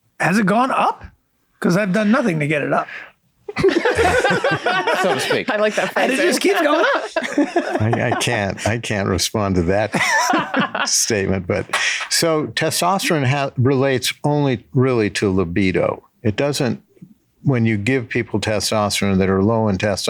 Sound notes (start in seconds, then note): 3.5 all laugh